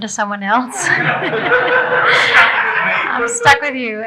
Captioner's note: audience laughing